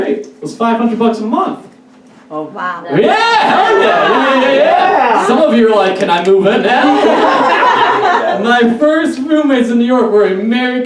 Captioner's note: audience Laughs